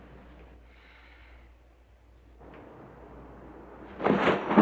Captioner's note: sighs